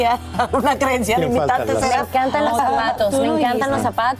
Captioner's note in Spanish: risas